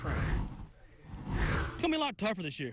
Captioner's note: air whooshes